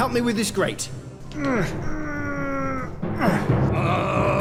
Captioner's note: straining